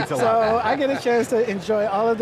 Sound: laughing

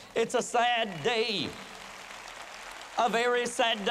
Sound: applause

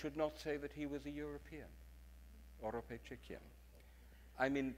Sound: speaks in foreign language

